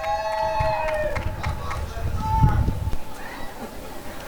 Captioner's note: applause and cheering